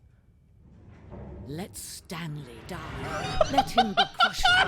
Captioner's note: machine whirring; laughs